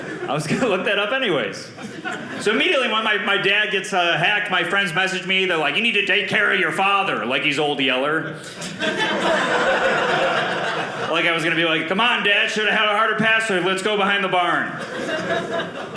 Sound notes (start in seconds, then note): 8.4 audience laughing